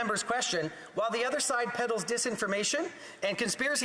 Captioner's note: speaking French